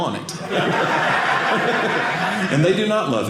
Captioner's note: audience laughing